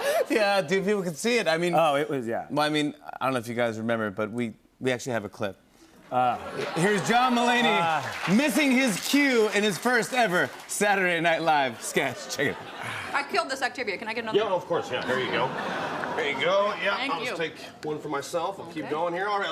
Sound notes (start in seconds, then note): 6.3 laughter and applause